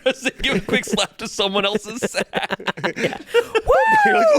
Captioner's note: laughs